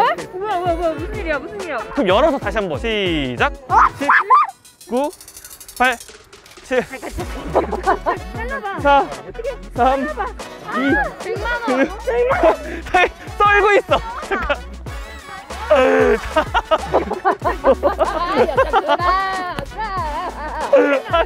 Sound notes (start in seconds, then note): 16.7 hahaha